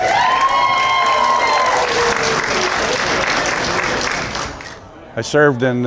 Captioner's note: cheers and Applause